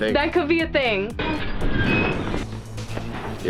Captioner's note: door squeaks